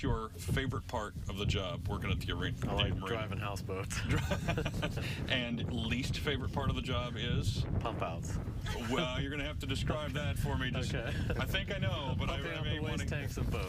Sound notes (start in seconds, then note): 8.6 laughter